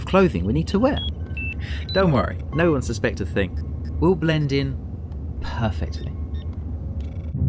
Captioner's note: laughs